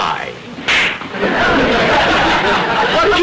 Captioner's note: audience laughter